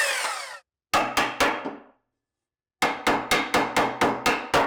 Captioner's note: cutter whirring continues; hammer banging